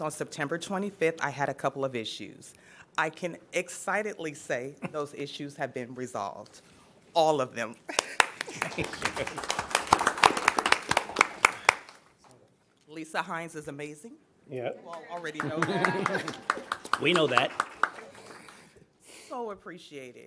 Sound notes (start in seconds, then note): 12.5 applause